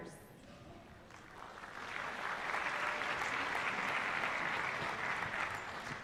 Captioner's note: applause